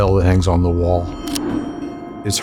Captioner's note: bell ringing